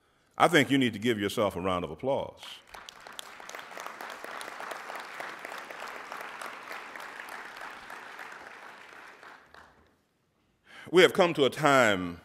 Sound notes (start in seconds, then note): 2.6 applauding